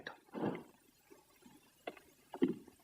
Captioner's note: stamps floor